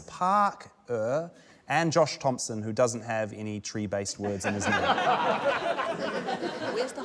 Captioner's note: laughter